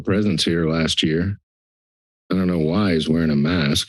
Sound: silence

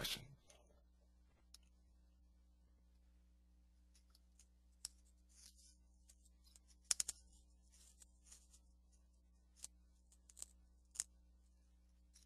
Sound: silence

